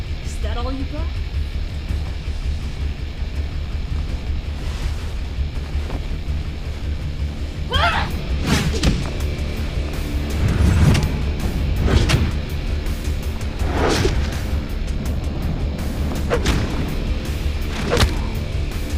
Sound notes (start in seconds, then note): 8.3 thudding; 10.9 whooshing; 16.5 thudding